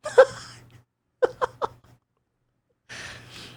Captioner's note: laughing